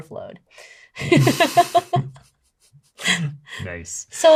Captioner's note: laughs